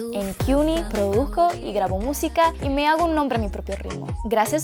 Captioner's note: speaking Spanish